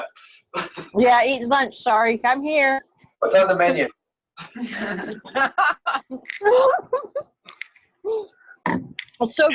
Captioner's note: laughter